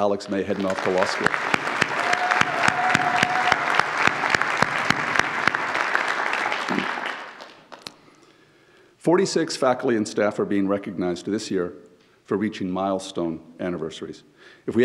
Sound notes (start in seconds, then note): 0.0 audience applauds; 0.1 audience cheers